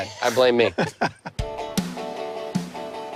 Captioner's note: laughter